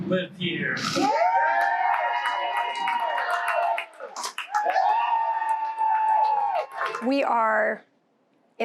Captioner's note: cheering